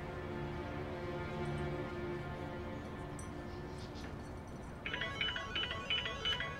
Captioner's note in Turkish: Telefon zili